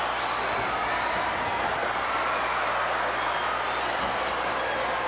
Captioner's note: audience cheering continues